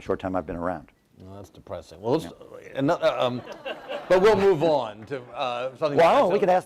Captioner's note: laughter